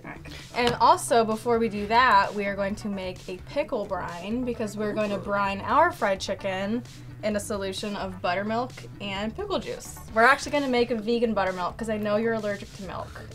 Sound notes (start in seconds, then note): none